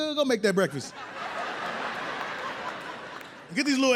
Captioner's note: audience laughs